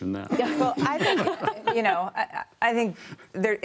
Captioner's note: laughter